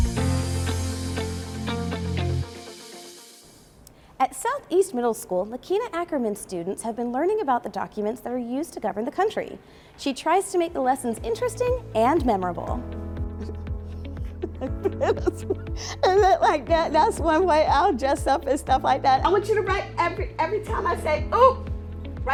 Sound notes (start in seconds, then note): 13.3 laughing